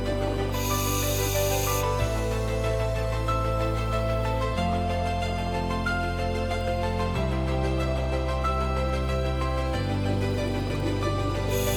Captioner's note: sound of breathing regulator operating